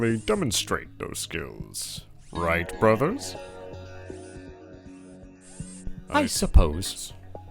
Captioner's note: Lewa and Tahu saying in a forced tone